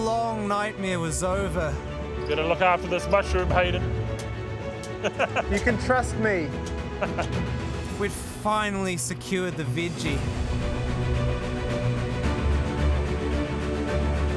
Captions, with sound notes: Our long nightmare was over. - You better look after this mushroom, Hayden. (he laughs) - You can trust me. We've finally secured the veggie. (dramatic music)